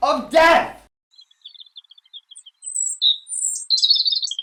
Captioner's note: birds chirping